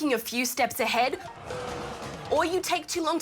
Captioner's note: groaning